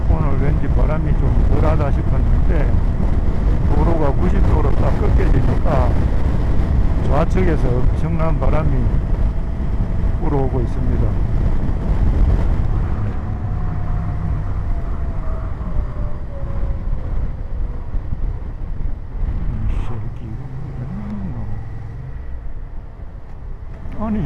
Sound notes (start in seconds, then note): 12.7 sound of slowing down